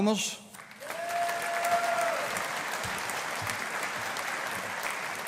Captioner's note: audience applauding